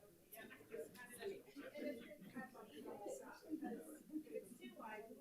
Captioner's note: audience talking over each other